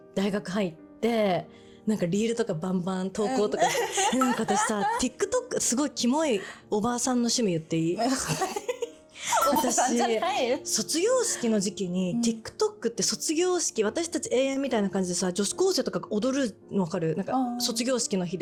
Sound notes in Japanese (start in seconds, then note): 3.3 笑い; 9.3 笑い